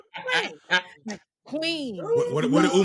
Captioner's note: laughing